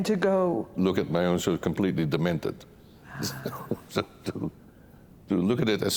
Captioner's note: chuckles